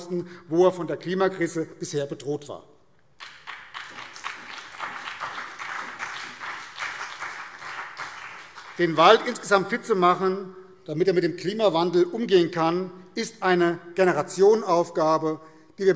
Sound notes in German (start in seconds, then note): 3.1 Beifall BÜNDNIS 90/DIE GRÜNEN und vereinzelt CDU